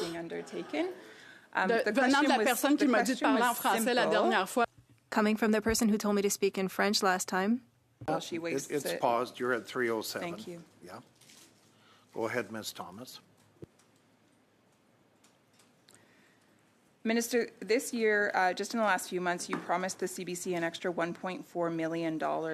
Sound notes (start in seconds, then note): 9.4 speaking French